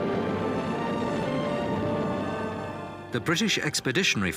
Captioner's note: engines roaring